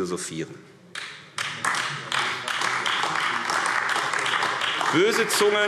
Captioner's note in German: Beifall AfD